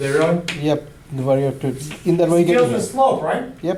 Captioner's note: voiceover